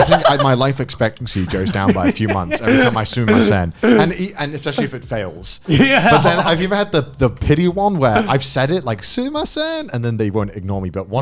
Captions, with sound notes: - I think my life expectancy goes down by a few months every time I (speaking in foreign language). And especially if it fails. - Yeah. (laughs quickly) - But then have you ever had the pity one, where I've said it, like (shouting in foreign language), and then they will ignore me,